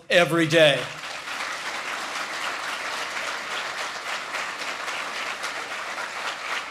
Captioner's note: applause